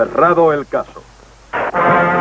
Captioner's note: gavel pounds